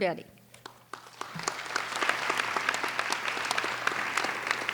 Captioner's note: applauding